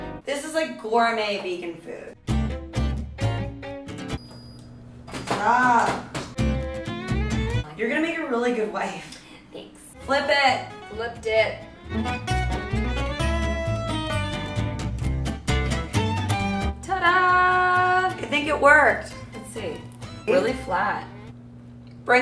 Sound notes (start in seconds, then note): 2.2 upbeat folk music; 4.1 iron beeps; 12.1 upbeat folk music